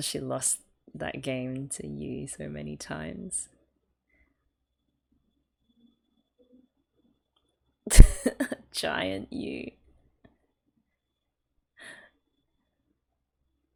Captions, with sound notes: because she lost that game to Yuu so many times? [laughs] Giant Yuu!